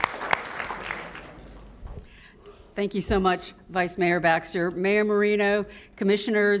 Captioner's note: applause